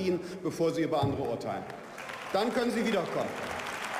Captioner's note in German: Beifall